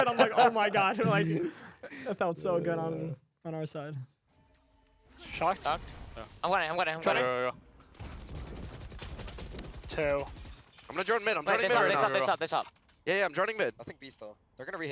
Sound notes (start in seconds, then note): 0.0 laughs; 7.9 guns firing